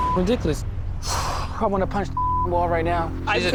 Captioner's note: exhales